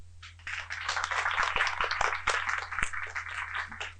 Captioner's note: applause